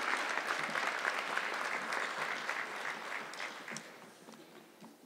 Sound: audience clapping

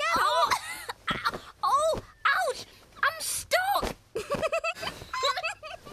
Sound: laughing; giggling

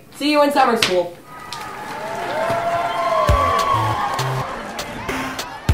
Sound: crowd cheering; upbeat electronic music

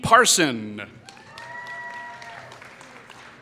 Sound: applause

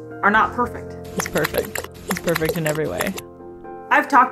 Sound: walrus vocalizing

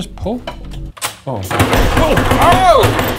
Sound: door banging

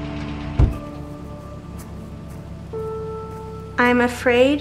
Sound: car door slams

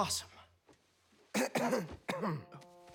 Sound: coughing

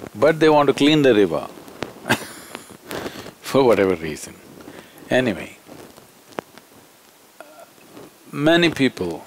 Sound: laughs

